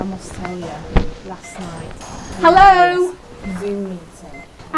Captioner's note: chattering continues